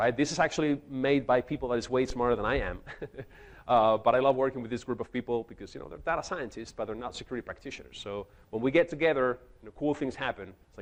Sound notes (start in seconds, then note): 2.7 chuckles